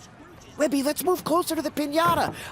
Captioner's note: whispering